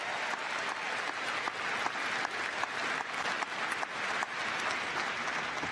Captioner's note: cheers and applause